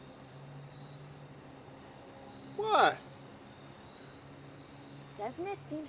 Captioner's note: silence; whispering